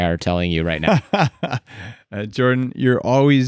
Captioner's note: laughs